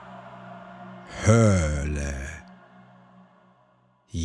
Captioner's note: german